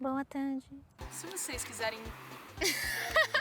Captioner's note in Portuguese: carro passa